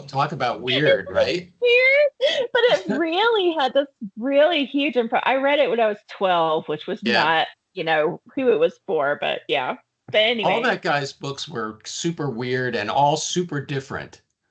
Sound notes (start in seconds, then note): 0.4 chuckling